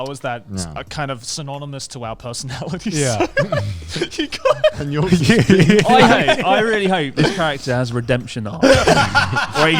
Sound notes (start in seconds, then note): 3.1 laughs quickly